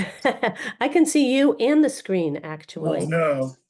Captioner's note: laughing